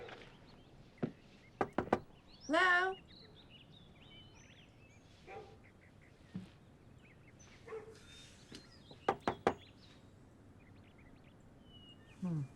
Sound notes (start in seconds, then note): 1.6 knuckle taps; 9.0 knuckle taps